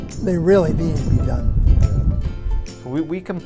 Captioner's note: wind blowing on microphone